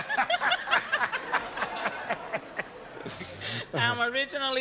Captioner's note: laughter